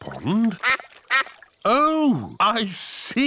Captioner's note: quacking